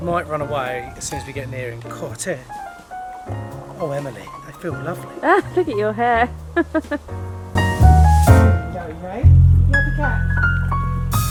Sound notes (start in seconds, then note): 6.5 laughing; 7.8 jazz music